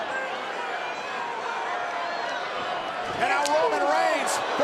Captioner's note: audience yelling